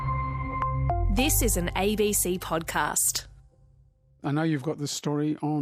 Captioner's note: podcast Plays